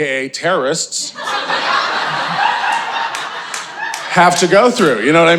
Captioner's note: audience laughing